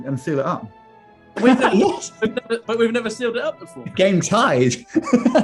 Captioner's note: laughing; laughing